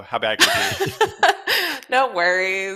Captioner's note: laughter